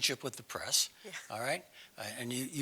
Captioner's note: laugh